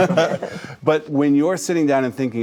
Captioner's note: group laughing